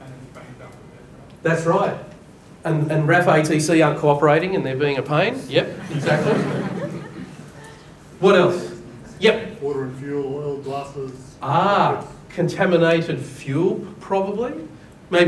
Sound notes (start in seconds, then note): 5.7 audience laughs